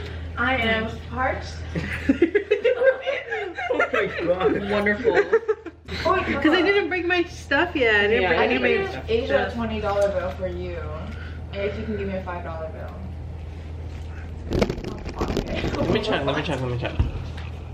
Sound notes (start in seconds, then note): 1.7 laughter; 14.4 rattling